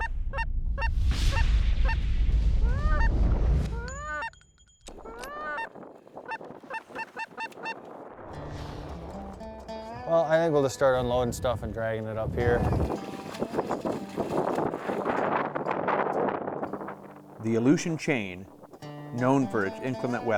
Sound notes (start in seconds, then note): 0.1 duck calls; 13.6 wind noises